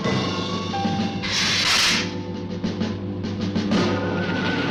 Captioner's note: lizard hissing